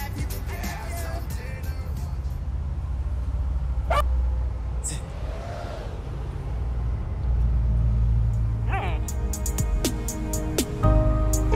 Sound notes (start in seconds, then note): 3.8 dog barking; 9.0 soft music